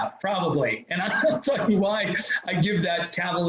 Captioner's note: laughs